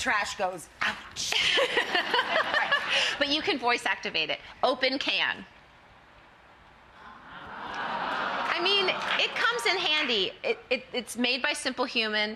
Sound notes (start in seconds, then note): 1.5 everyone laughs; 6.9 audience gasps